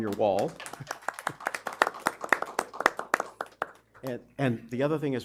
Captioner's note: applause